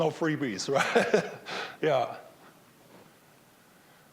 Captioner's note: laughing